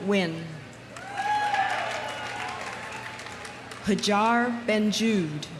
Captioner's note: audience cheering; audience applauding